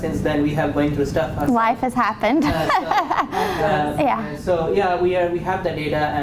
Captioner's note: laughing